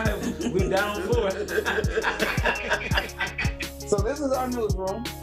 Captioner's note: laughing